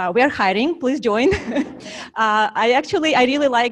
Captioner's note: slight laugh